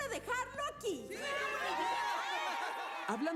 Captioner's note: cheers